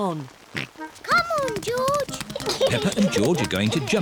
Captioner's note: oinks; giggles